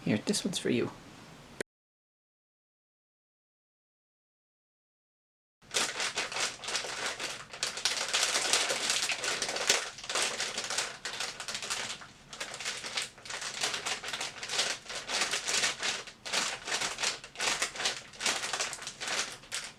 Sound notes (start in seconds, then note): 5.6 crinkling sounds